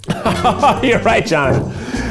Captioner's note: laughing